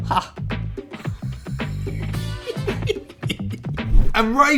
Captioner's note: laughing